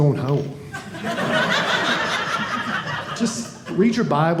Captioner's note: audience laughing